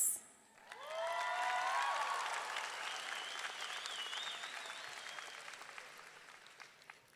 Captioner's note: audience clapping; audience cheering